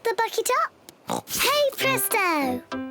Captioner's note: oinks